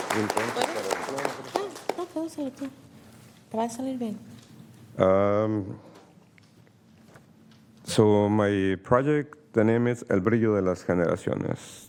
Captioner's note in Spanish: aplausos